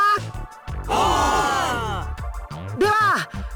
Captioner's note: affirmative cheer